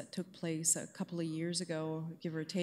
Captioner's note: none